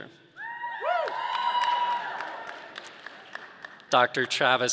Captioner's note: audience cheering